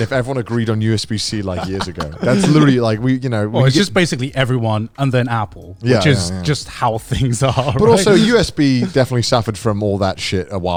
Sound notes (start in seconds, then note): 7.4 chuckling